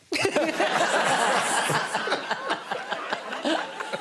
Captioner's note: laughter